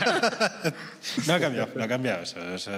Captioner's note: laughter